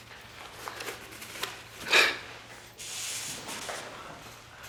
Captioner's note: paper rustling